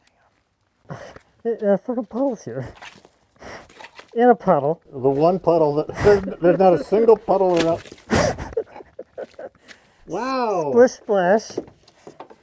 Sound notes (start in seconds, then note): 8.7 laughing